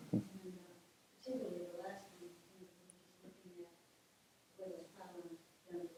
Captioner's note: faintly speaking